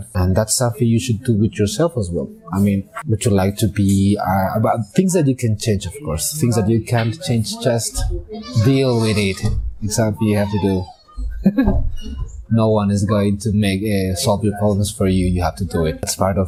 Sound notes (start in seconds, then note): 9.9 laughs